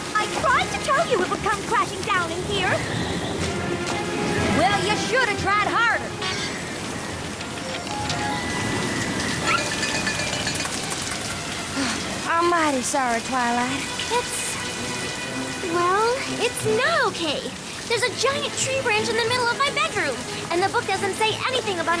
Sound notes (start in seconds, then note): 6.4 wind whistling; 9.5 rattle!; 11.7 sighs